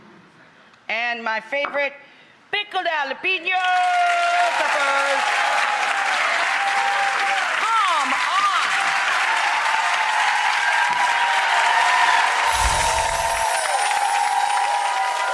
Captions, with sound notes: And my favorite, pickled jalapeno peppers. (applause) Come on! (cheering)